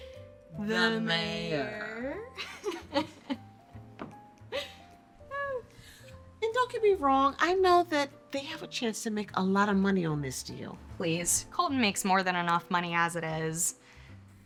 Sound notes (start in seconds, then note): 2.4 Bree laughs